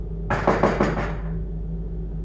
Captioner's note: knocking on the door